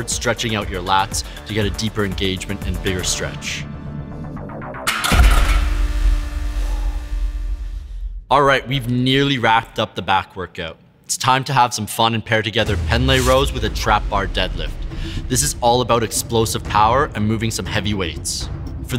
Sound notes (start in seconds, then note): 4.9 weights banging